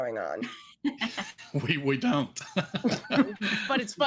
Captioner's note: actors laughing